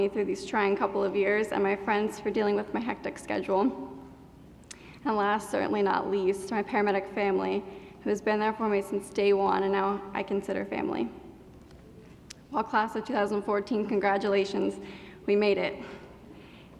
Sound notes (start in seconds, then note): none